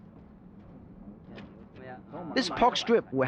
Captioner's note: speaking Chinese